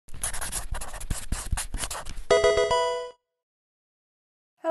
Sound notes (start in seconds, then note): 0.1 pen scratching; 2.3 victorious tones